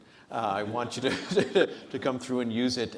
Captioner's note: audience laughs; laughs